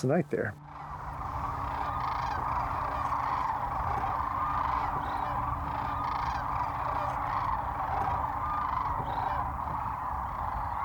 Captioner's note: crane calls